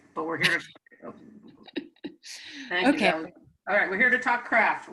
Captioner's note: chuckles